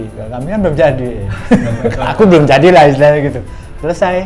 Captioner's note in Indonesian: tertawa